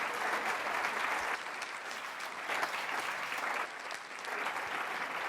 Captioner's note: applause